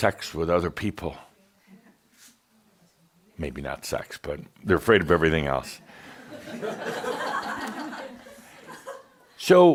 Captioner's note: laughter